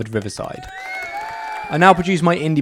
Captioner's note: crowd cheering